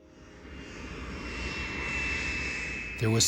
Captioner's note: plane landing